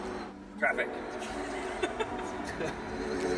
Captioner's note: laughing